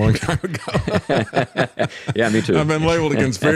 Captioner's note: both Laughing